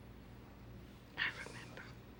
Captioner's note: whispers